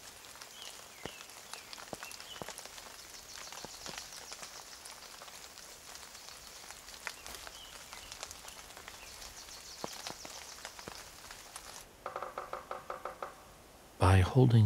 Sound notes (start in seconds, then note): 12.0 woodpecker hammering